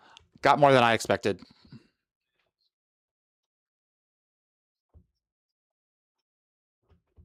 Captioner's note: muted